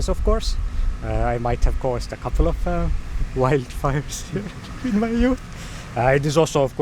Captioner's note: chuckles uneasily